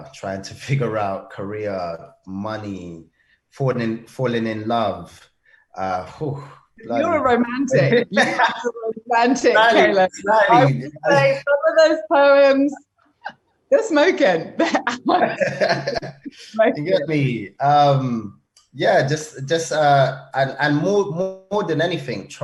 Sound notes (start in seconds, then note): 7.6 laughing; 14.8 both laugh